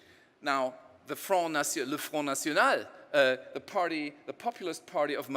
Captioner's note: speaking in foreign language